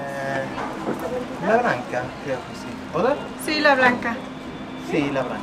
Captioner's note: in Spanish